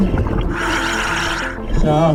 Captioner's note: oxygen bubbling in water; oxygen tank hissing